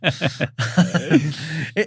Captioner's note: both laughing